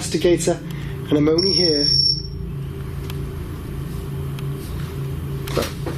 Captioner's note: REM Pod beeping